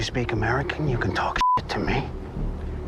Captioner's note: beep